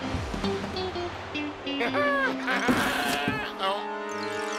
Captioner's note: laughs